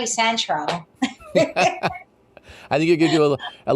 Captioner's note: both laugh